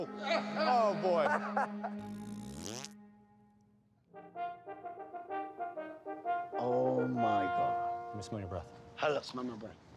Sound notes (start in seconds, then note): 2.0 farts